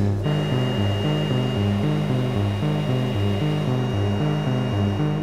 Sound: machine whirring

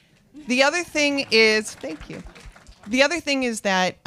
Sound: audience applauds

